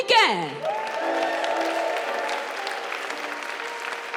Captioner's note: audience cheering and applauding; gentle piano music continues